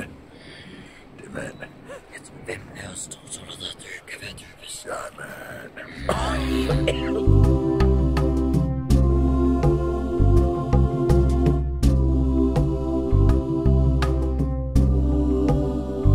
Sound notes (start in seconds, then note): 5.8 coughs